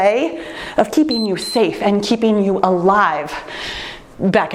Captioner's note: timer beeps